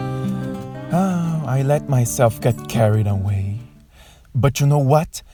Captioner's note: sighs